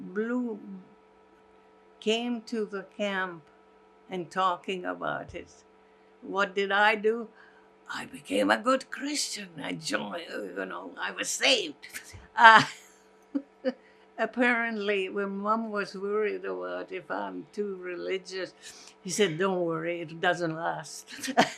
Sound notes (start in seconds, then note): 13.1 laughing